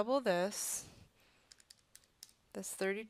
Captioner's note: typing